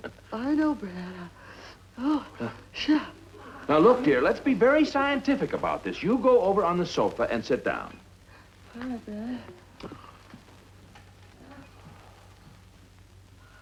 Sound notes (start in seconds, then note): none